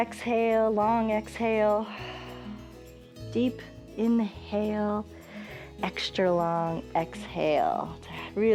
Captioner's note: exhales